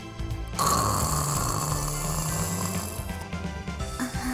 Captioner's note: snore